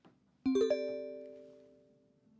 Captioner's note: cell phone chime